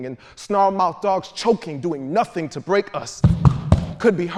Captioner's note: feet stomping